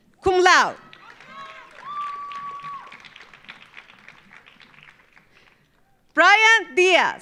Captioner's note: audience cheering; audience applauding